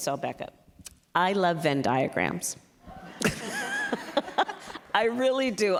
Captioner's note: laughter